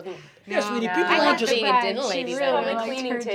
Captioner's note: everyone chattering